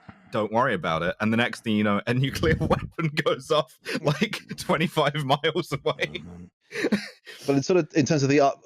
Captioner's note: laughs